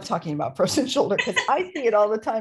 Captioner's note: laughter